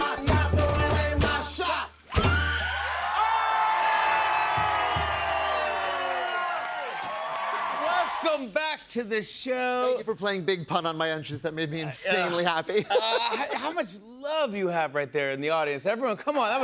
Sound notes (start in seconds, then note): 3.1 shouting; 5.1 cheering